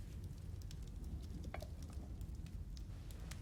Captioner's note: fire crackling